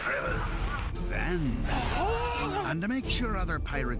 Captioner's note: gasping